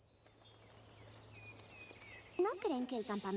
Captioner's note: birds chirping